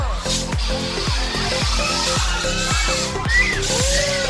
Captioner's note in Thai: ว้ายๆๆ